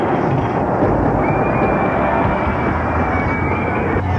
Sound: screaming

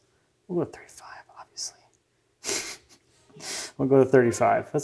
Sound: laughs

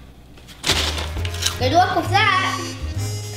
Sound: crunching

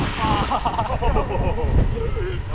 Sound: laughs

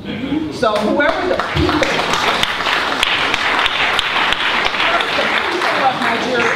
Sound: applause

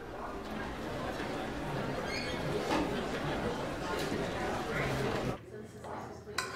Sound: students chatting

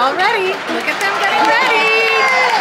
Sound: people applauding

